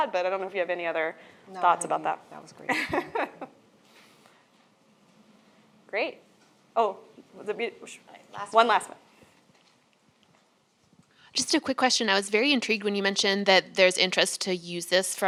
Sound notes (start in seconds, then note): 2.6 laughs